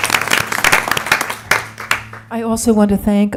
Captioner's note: applause